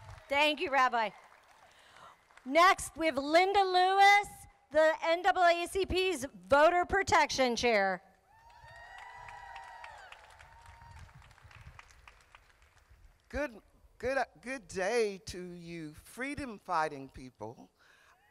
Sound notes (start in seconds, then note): 0.0 crowd applauding; 8.4 crowd applauding